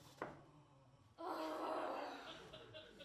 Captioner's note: frustrated sigh